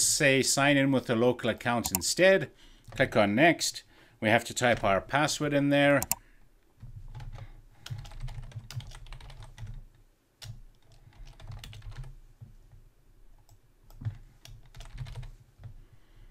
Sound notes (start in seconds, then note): 7.8 keyboard typing